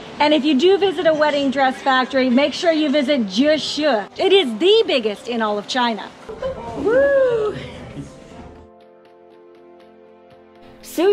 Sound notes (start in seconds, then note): 6.3 laughter; 9.0 mellow electronic music